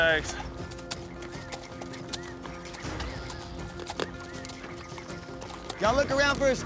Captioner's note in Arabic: ضربات حوافر